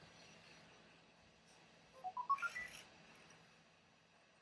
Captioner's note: ERS-111 beeping happily in background